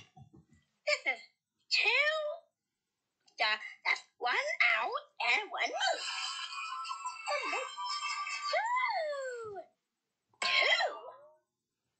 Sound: crash

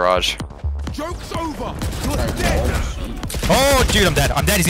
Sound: guns firing

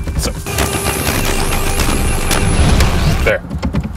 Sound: intense battle sounds

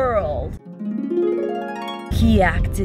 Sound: chimes

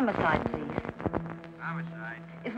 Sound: on phone

